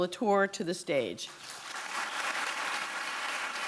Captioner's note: applause